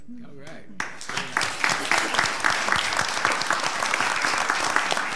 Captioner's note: all applauding